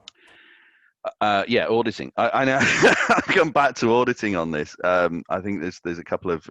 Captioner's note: laughs